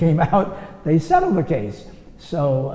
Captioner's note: laughs